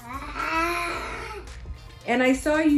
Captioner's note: making animal noise